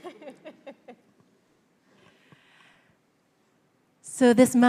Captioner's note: congregation laughs